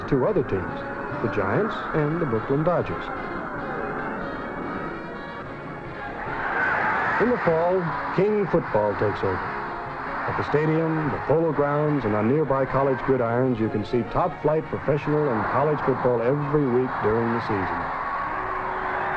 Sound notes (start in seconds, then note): 6.4 crowd cheering; 18.9 crowd cheering